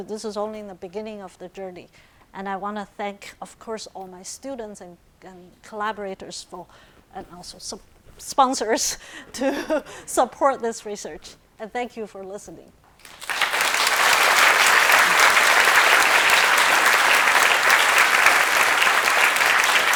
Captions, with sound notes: This is only in the beginning of the journey, and I want to thank, of course, all my students and collaborators and also sponsors to support this research. And thank you for listening. (audience applauding)